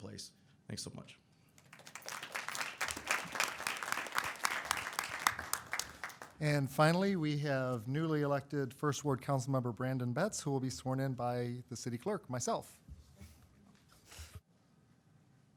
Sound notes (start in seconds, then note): 1.5 applause